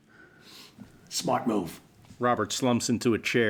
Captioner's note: whispers